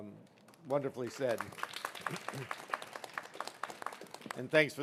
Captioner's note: applauding